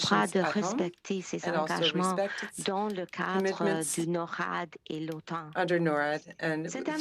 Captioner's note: speaking French